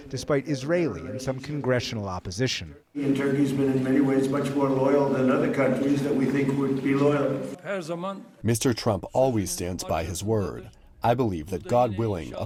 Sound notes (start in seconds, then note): 9.0 through translator